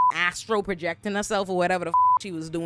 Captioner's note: beep